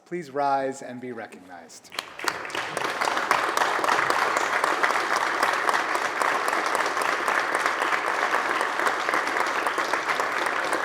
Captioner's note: applause